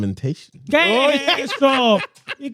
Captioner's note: speaking In Foreign Language